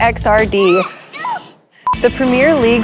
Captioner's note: child yells; screen beeps